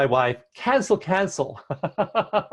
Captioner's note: chuckle